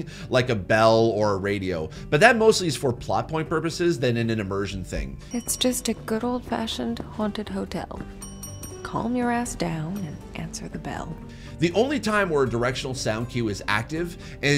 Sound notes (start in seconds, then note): 5.2 bell rings; 8.0 bell ringing